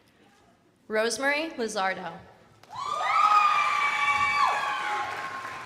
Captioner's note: crowd applauding